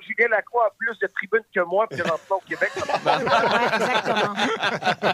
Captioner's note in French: rires